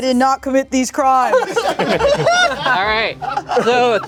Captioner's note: everyone laughing